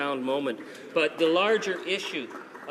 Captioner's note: some applause